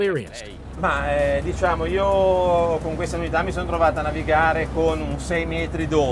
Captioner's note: speaking in foreign language